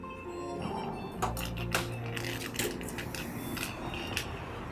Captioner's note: cane clacking and scraping